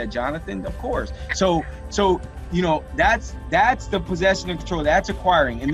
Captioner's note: murmurs